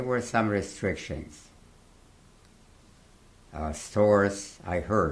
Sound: pauses for 3 seconds

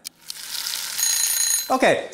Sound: soft bell

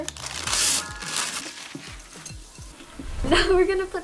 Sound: bell chimes

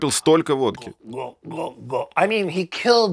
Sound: gulping sounds

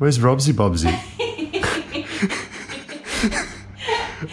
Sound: laughing

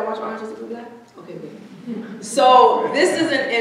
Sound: audience chuckling

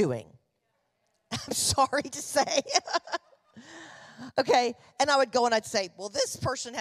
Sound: chuckling

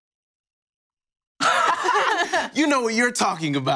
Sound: both chuckling

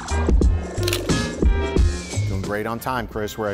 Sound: shutter snaps

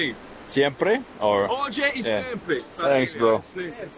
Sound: speaking in foreign language

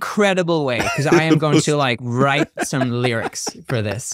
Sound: laughing

